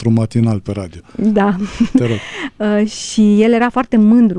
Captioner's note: laughter